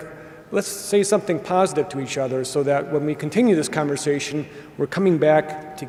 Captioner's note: none